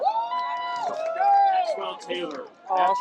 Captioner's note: cheering, applause